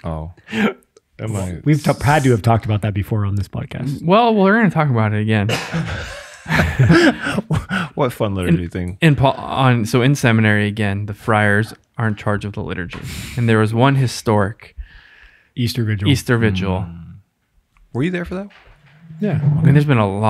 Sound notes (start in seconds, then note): 5.5 all laugh